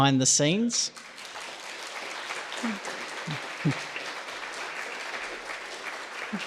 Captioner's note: audience applauds